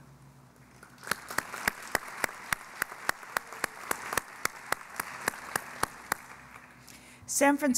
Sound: applause

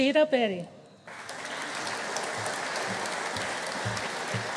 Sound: audience applauding

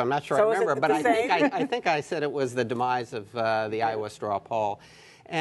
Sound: laughter

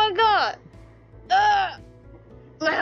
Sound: the sound of my heart stopping

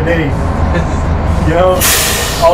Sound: laughs

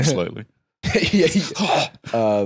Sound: laughs

